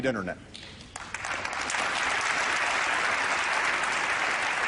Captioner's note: applause